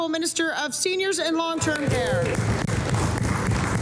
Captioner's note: applause